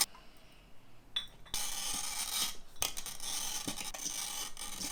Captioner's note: glass clinking